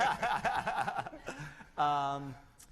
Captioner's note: laughter